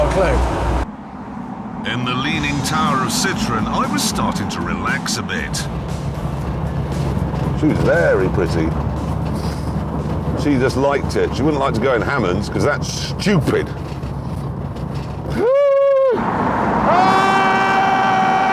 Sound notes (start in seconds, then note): 3.3 richard laughs